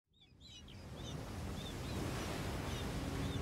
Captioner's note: birds chirp